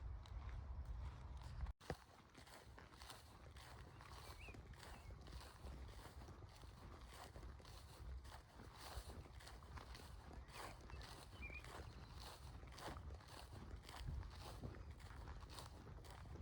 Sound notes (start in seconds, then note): 3.7 bird song